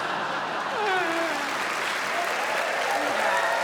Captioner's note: sobbing